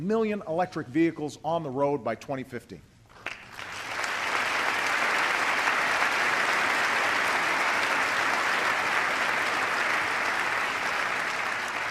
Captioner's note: applause